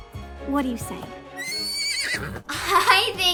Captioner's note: neighs